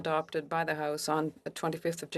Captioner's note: speaking French